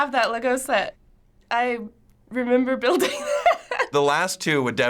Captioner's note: laughing